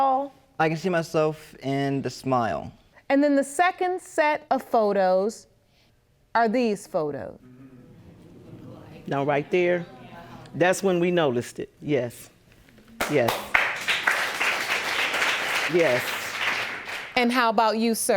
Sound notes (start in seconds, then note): 13.0 audience applauds